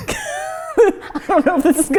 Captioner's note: both laugh